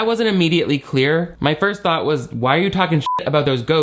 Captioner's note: beep